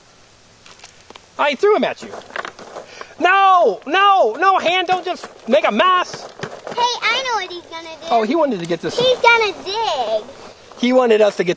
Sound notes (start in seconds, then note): 7.5 voiceover; 11.3 voiceover